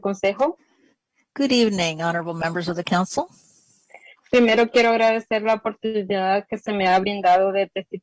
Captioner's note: speaking spanish